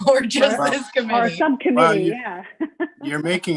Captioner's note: laughs